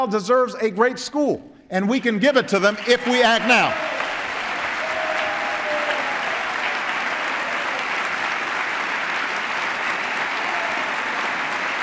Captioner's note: applause